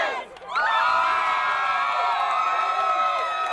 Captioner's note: people Cheering